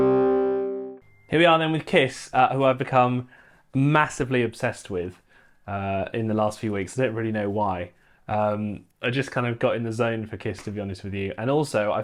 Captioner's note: humming